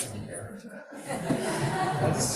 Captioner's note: laughter